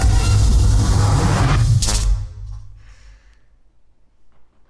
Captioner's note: electricity buzzes